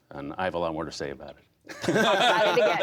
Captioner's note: laughter